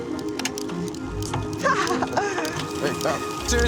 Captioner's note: laughing